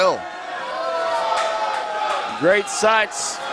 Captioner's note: crowd booing